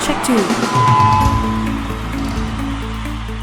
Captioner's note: microphone feedback